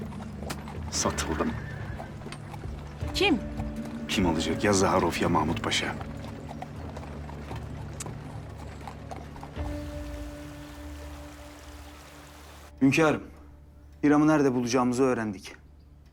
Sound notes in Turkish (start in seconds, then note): 10.1 Akarsu sesi